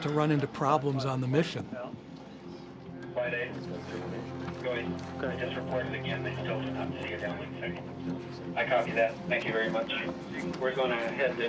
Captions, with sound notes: And the signal didn't show up. That's not where you want to run into problems on the mission. (anxious music) (navigators chattering)